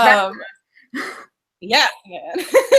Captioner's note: laughing